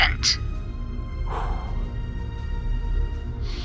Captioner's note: logan exhales